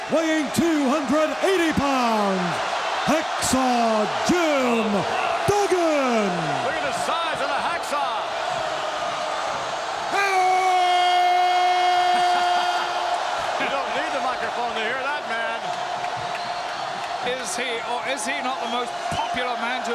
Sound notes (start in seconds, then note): 12.3 Vince laughs; 12.3 crowd cheers